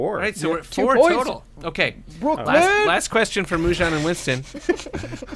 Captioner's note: giggling